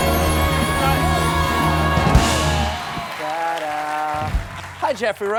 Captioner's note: cheers and applause